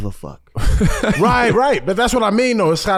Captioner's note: laughs